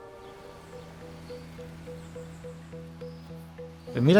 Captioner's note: musical transition; transición musical; birds chirping; canto de los pájaros